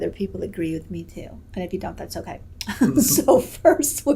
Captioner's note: laughs